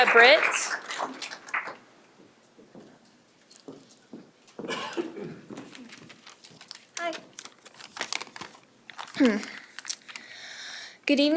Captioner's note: applause